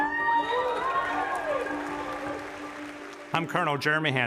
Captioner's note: audience cheers